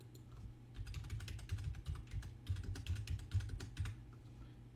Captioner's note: typing